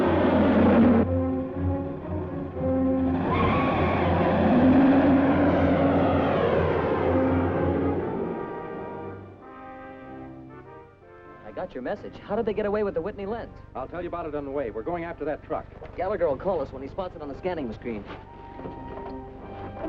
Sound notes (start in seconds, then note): 2.7 tires screeching